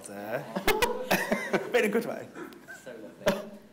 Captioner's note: everyone laughing